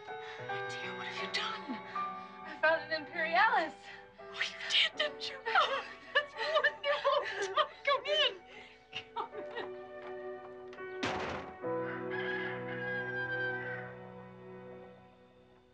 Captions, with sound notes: - Oh, dear, what have you done? - I found an imperialis. - Oh, you did, didn't you? That's wonderful. Come in, come in. (door closing) (rooster crowing)